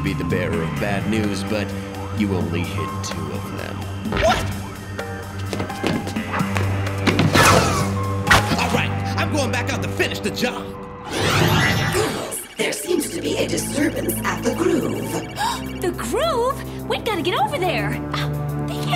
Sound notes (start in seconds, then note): 15.0 gasps